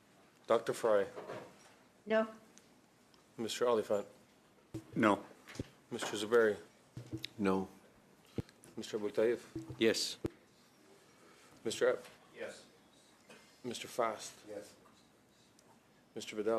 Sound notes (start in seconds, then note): 2.7 calling of recorded vote